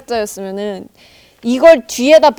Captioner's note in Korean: 심호흡